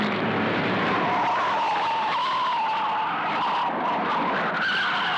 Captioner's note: tires screeching